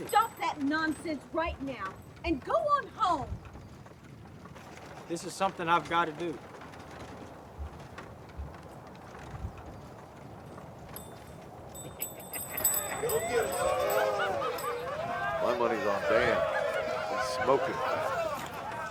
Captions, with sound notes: - You stop that nonsense right now and go on home. - This is something I've gotta do. (carts rattling) (gang laughing) - My money's on Dan, he's smoking hot.